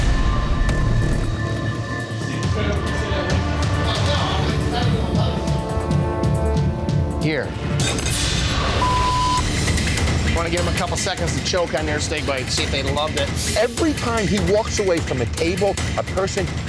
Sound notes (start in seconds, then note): 0.2 suspenseful music; 8.8 beep